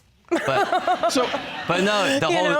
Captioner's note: audience laughing